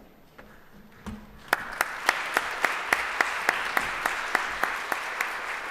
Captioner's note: applause